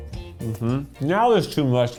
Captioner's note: humming